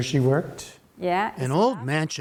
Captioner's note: through translator